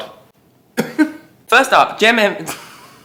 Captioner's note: coughs